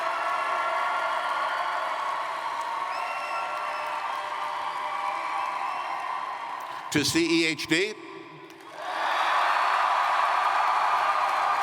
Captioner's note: cheering; cheers & Applause